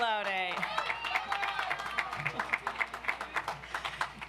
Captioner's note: audience applauds